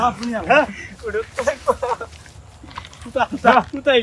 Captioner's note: সশব্দ হাসি